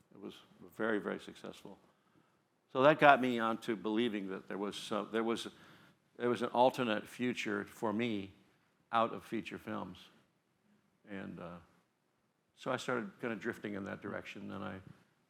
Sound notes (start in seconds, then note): none